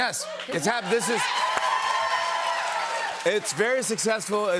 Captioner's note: cheers and applause